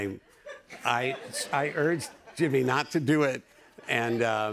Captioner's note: laughter